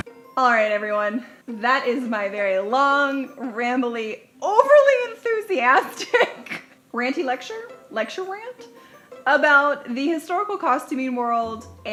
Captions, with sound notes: All right everyone, that is my very long, rambley, overly enthusiastic (chuckles) ranty lecture? Lecture rant? (bouncy music) About the historical costuming world